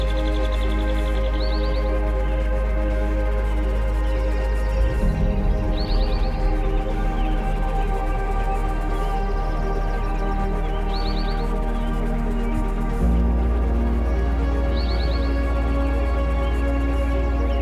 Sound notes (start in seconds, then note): 2.7 birds continue chirping; 2.7 gentle music continues